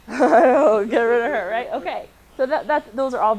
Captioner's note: laughs